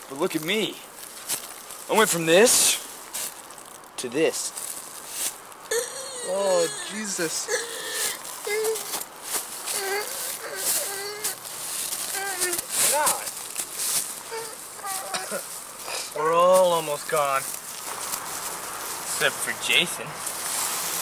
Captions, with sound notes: But look at me, I went from this to this. (George grumbling) - Oh, Jesus. - God. (George grumbling) - We're all almost gone. - Except for Jason.